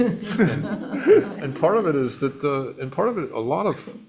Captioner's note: attendees laugh